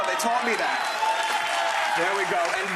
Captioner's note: crowd cheering